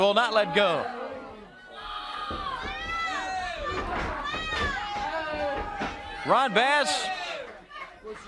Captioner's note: crowd chatter